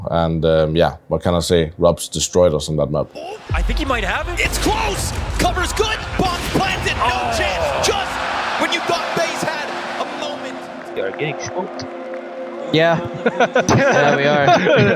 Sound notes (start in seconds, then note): 3.4 explosion booming; 6.5 gun firing